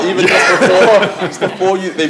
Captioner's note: laughter